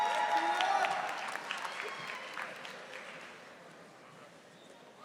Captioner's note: audience applauding